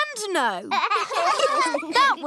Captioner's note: laughter